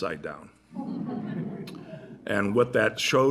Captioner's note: laughter